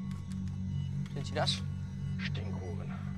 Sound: German

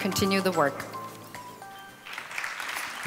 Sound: applause

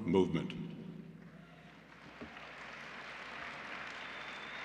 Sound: applause

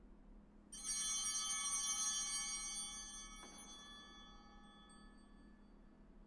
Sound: altar bells ringing

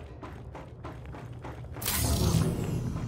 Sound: footsteps

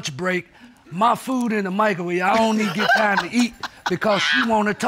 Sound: laughs

